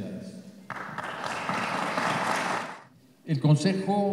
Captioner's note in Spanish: Aplausos